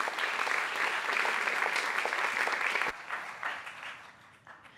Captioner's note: audience applauds